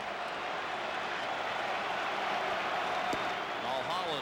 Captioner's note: applause